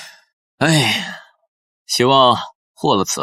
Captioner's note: sigh